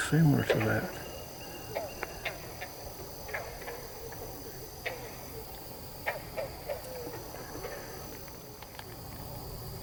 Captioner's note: katydids forest sounds